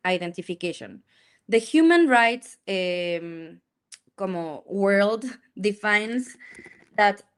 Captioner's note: speaks in Spanish